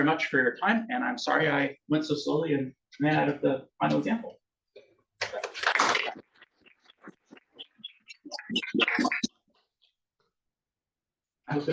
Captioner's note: audience claps